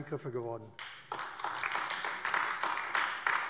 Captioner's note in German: Beifall AfD